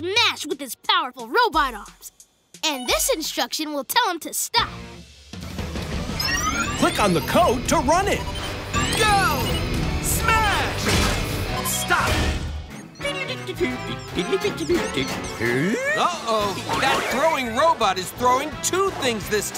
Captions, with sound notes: with his powerful robot arms. And this instruction will tell him to stop. Click on the code to run it. Go! Smash! Stop. [humming] Uh-oh, that throwing robot is throwing two things this time.